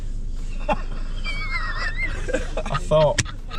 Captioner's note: laughing